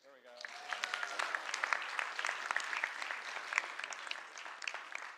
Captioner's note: applause